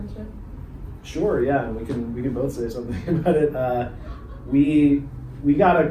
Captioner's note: chuckles